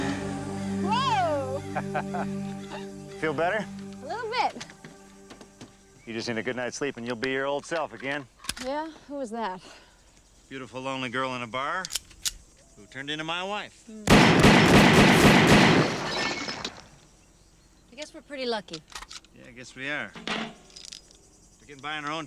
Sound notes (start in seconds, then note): 0.9 Jeff laughs; 14.0 bottles shatter; 14.0 gunshot blasts